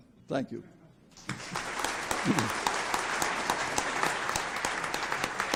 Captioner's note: audience applauds